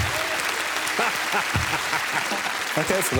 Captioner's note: applause